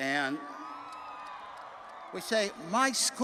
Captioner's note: attendees cheering